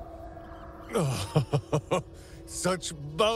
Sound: laugh

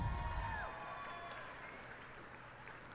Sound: cheers and applause

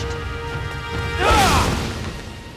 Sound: screaming

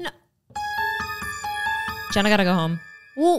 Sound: eerie sound

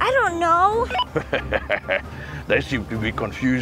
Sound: laughs

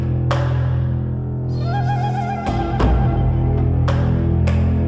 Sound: clap

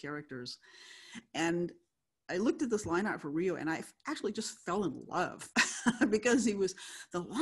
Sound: laughs

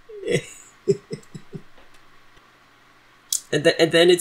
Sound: laughs

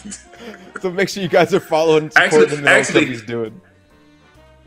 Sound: laugh

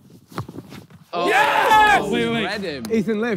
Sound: players cheer

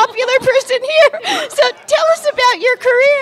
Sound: laughter

